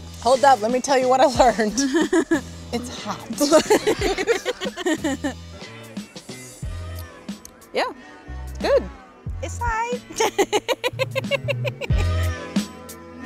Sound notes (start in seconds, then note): 3.4 laughing; 10.1 laughs